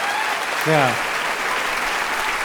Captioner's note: audience cheering